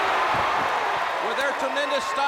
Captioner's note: crowd cheering